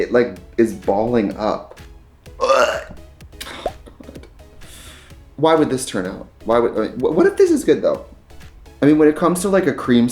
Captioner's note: retches